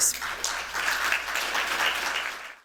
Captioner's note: applause